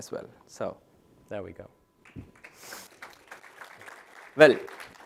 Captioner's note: applause